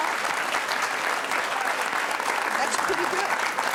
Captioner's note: audience applauds